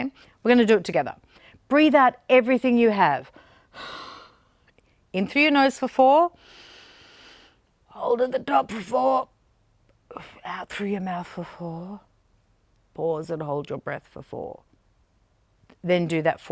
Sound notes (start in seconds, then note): 3.7 exhales; 6.4 inhales